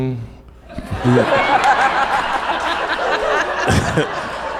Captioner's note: audience laughs